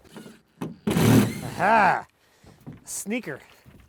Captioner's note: drill grinding